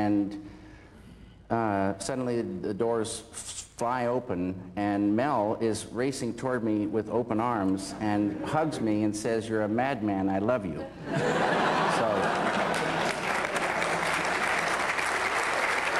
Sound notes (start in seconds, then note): 11.0 laughter, then applause